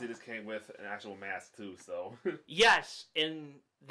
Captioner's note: chuckles